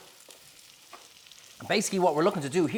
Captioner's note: pan sizzles